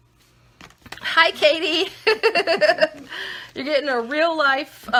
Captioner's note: laughing